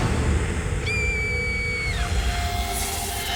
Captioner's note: girl shrieks